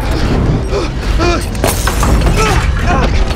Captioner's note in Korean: 끙끙거리며